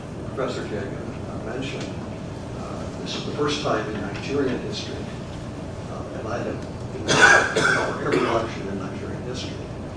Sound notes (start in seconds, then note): 7.0 cough